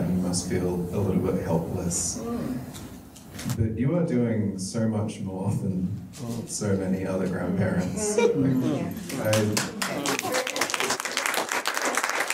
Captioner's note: audience claps